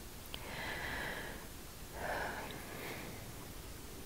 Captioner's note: long inhale, restrained sigh